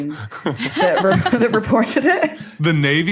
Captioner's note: laugh